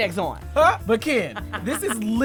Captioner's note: laughs